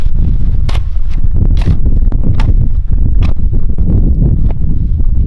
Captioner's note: shovel slamming